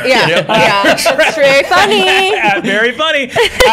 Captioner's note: laughter